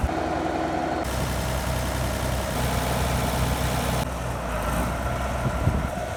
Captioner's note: engine noise